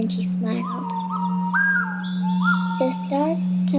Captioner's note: whistling